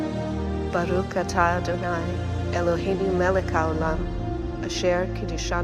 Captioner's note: gentle music continues; speaks in foreign language